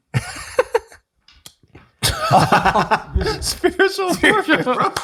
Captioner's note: laughs